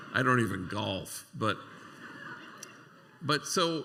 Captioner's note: laughter